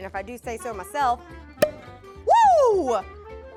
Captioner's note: pop!